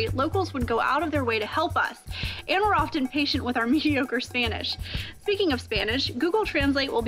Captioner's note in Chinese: 西班牙語